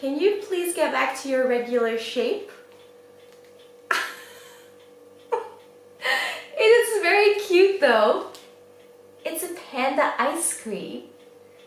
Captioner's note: laughs